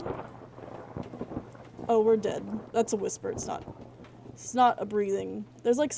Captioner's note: thunder; whispering / Hissing Noises